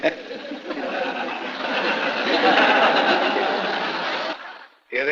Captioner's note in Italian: risate